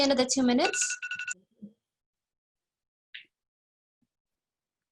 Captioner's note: alarm goes off